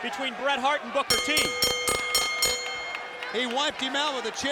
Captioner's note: bell rings